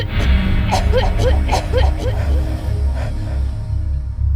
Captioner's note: choking continues